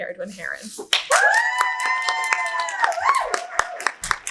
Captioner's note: audience cheers